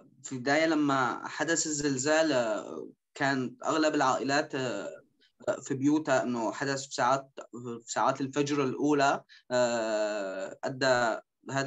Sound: speaking In Arabic

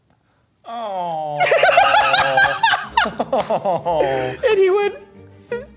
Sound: laughing

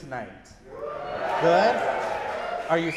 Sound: audience whooping

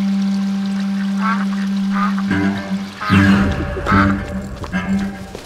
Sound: ducks quacking

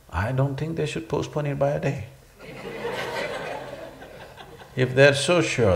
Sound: laughter

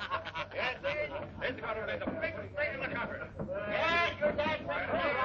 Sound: laughter; chatter

